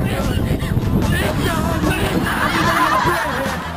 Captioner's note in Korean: 콜록 콜록